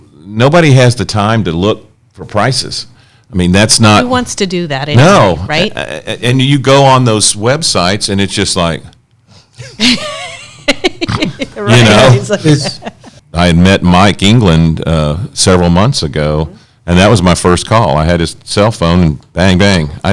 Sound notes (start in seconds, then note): 10.7 all laughs